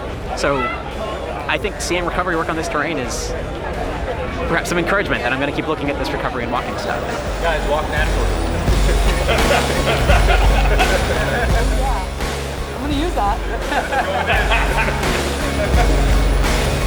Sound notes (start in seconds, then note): 9.1 laughing; 14.2 laughing